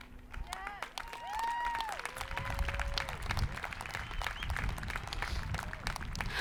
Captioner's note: people cheering